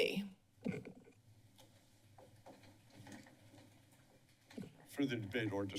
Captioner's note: silence